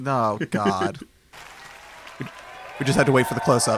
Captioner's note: audience cheers